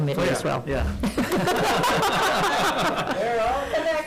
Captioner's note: all laugh